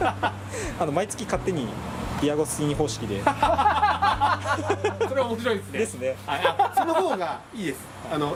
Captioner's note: laughs